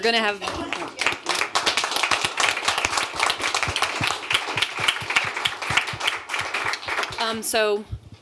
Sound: applause; laughter

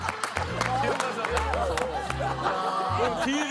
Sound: applause

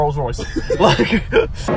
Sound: laughing

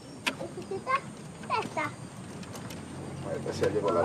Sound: child playing on background

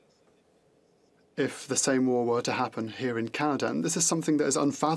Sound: speaking French

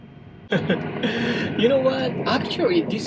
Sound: chuckle

